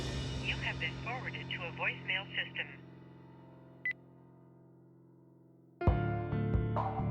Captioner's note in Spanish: Sollozos; Voz en el contestador